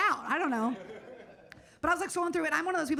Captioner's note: audience laughing